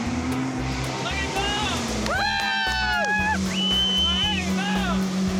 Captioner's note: both cheering